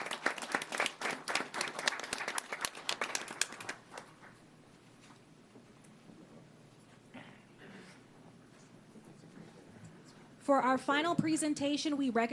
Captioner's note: applause